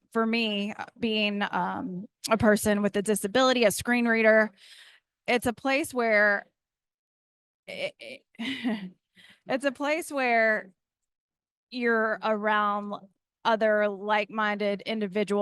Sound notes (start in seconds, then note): 8.4 giggles